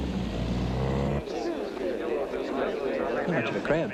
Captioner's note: crowd chattering